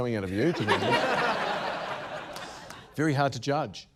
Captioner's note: laughter